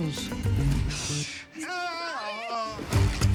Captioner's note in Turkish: doktor bağırır